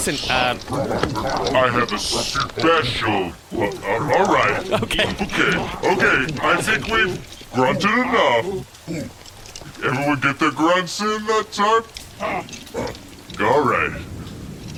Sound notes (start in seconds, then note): 0.0 sounds of manhandling and guards grunting; 0.0 grunting continues; 8.9 grunting subsides; 12.0 sporadic grunts